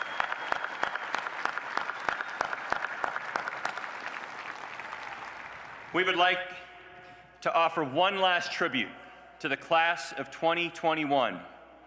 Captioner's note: applause